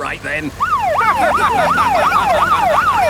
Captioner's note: siren wailing; laughing